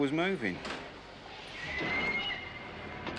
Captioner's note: train whistle blows